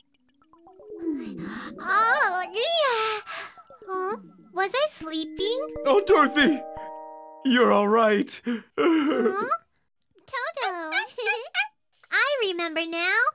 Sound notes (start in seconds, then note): 0.7 yawn; 8.7 sob